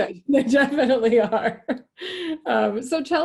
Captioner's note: laughing